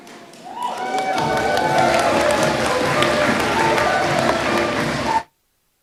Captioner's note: applause